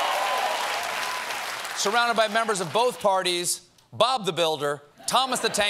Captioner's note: cheers and applause